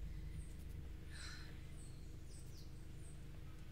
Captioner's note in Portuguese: Suspiro